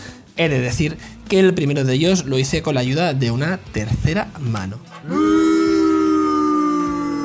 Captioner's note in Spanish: buuuuu